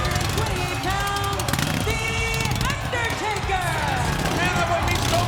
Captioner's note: motorcycle revving